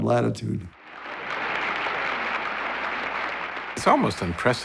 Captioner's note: applause